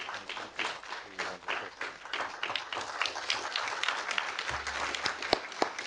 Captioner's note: speaker drowned out by clapping